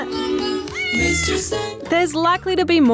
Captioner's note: meowing